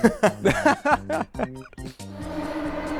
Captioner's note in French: S'exclaffe